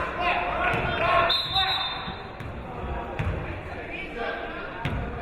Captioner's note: whistle blows